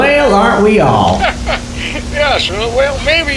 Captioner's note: chuckles